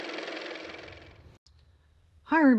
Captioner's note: car motor